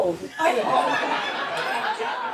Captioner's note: audience laughing